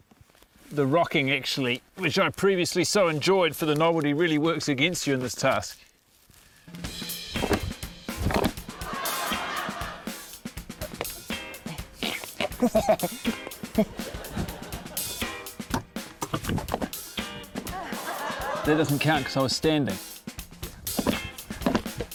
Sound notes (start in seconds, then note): 8.7 laughter; 10.6 grunts, chuckles; 13.8 tense comedic music